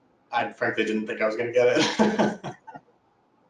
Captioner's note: laughs